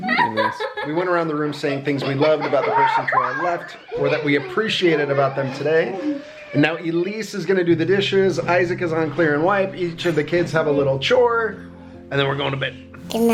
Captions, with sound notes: We went around the room saying things we loved about the person to our left, (children laughing) or that we appreciated about them today, and now Elise is gonna do the dishes, Isaac is on clear and wipe, each of the kids have a little chore and then we're going to bed.